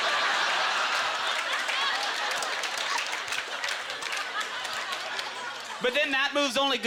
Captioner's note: audience laughter; applause